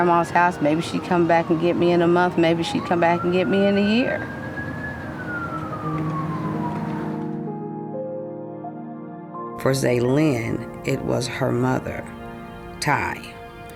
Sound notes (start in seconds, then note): 4.5 police sirens; 7.3 soft music